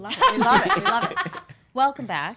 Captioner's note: laughs loudly